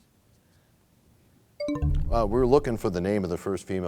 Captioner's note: bell chimes, time expires